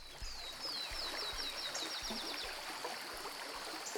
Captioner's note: birds chirp